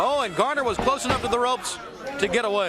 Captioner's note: crowd chatter